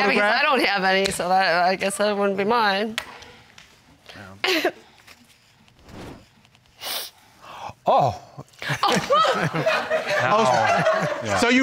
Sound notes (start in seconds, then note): 4.2 coughs; 8.9 audience laughing